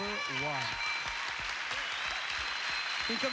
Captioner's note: cheers and applause